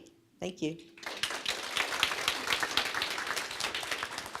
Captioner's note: applause